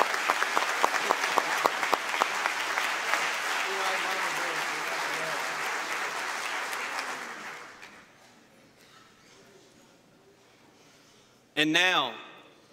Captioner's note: cheers and applause